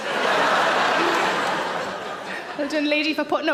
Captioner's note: audience laughs